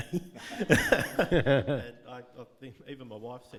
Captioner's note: audience laughing